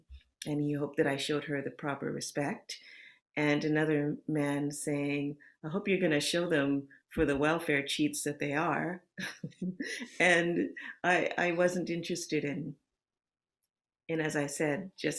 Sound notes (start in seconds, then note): 9.2 chuckles